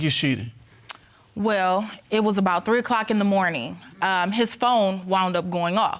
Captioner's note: clicks tongue